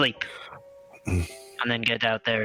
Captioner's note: grunts